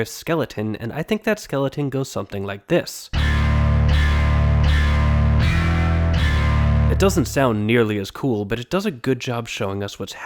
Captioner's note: bang